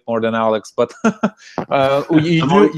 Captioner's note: laughs